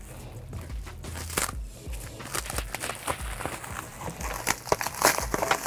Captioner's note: plastic crinkling